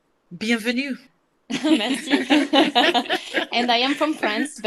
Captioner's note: laughing